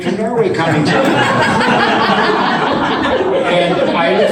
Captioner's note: audience laughs